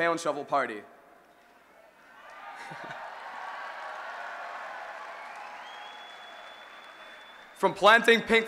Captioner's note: cheering